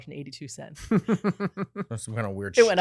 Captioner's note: laughing